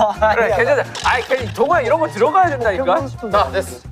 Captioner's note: arguing